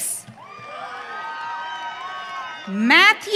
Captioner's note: audience cheering